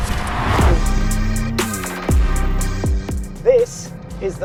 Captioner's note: vehicle revs; upbeat music